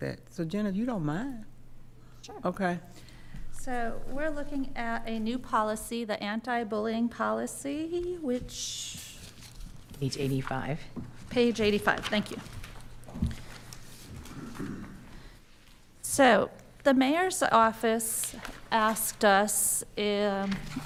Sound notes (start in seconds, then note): 12.9 pages rustling; 14.3 clearing throat